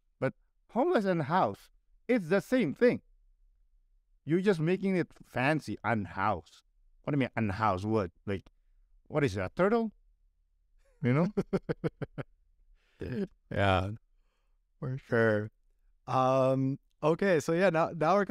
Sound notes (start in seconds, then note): 10.9 laughter